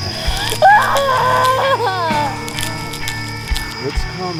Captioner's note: tense rock music continues; Cammy wailing; flesh squelching